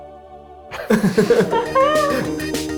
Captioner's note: people laugh; upbeat music